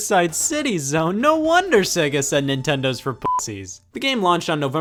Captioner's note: beep